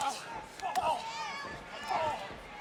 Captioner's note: none